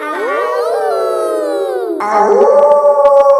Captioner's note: kids howling; howling; wolf howling loudly